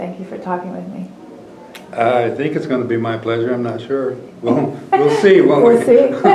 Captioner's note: laughter